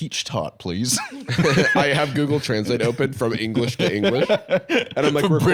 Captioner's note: laughs